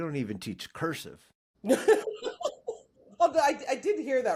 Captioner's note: laughs